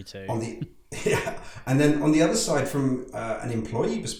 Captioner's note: laughs